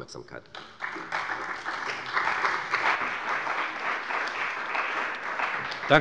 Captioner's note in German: Beifall bei der CDU und dem BÜNDNIS 90/DIE GRÜNEN